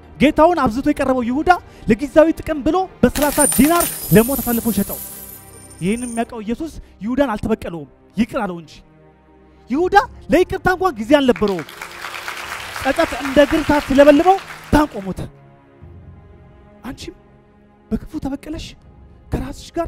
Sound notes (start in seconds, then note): 11.3 applause